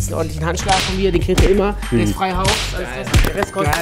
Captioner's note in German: Stimmengewirr